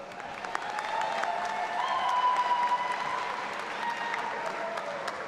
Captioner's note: all applauding and cheering